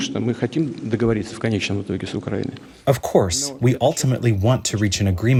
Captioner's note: through translator